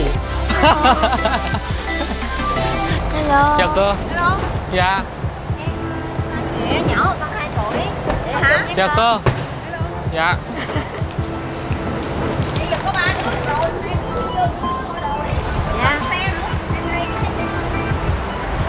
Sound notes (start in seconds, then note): 0.5 laughing